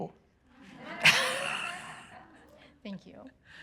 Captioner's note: chuckles